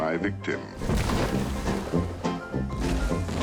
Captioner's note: thuds